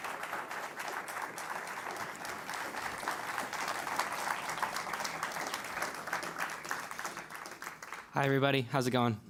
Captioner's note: applause